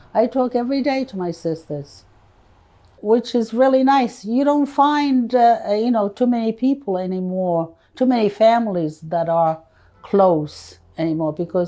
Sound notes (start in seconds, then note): none